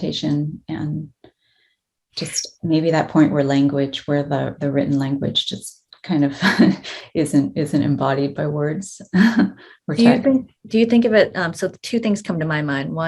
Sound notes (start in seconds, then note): 8.4 chuckles